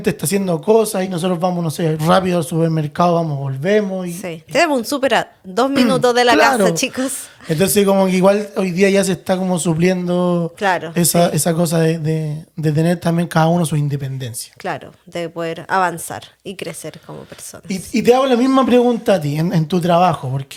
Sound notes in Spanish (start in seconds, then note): 6.0 carraspeo